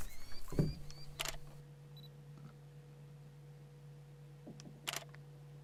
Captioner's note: camera shutter; camera shutter